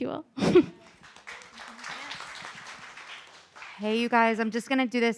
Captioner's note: audience applauding